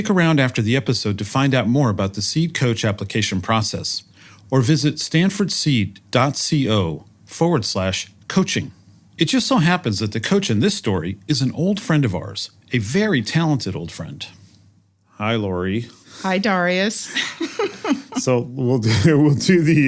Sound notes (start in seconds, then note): 17.1 laugh